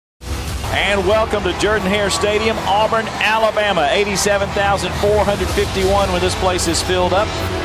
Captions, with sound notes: - [Voiceover] And welcome to Jordan-Hare Stadium, Auburn, Alabama; 87,451 when this place is filled up.